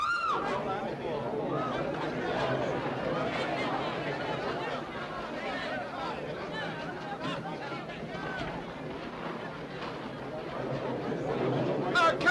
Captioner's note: Mary screams; chatter & commotion